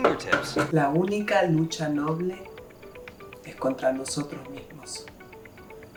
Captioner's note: Alma speaking in Spanish